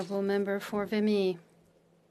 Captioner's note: speaking French